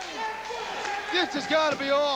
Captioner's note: crowd cheering